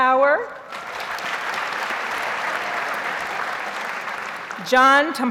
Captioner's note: audience applauds